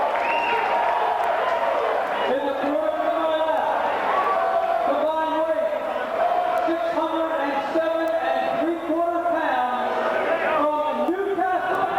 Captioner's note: crowd chatter